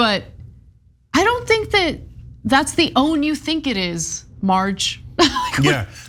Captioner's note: laugh